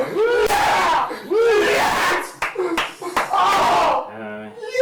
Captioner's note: clapping